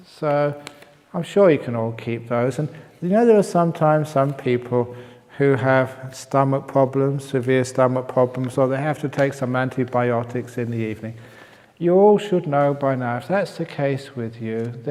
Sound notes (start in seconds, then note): none